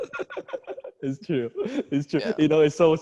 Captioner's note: laughing